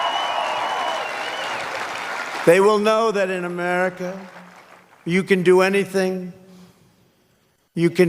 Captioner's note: cheers and applause